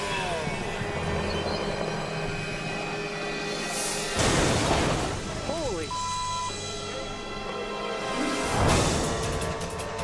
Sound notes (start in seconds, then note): 0.1 blades whirring; 4.2 autogyro slams; 5.9 beep